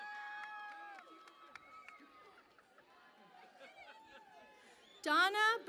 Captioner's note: cheering and Applause